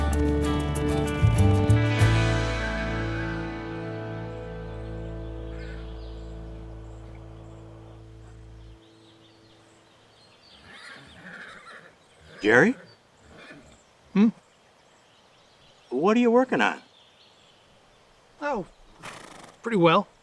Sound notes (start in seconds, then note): 3.5 birds chirping; 3.5 horse neighing; 10.6 horse whinnying